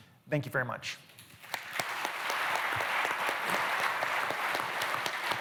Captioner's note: applause